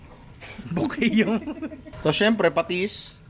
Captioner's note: laughs